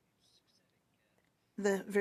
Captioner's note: speaking French